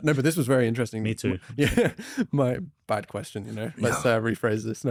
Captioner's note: laughs